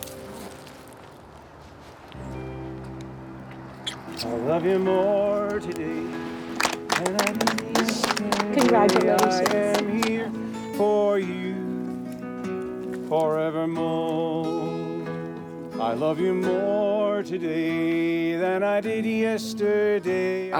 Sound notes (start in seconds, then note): 3.8 kissing; 4.9 clapping; 4.9 country music